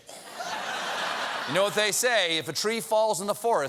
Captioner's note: laughter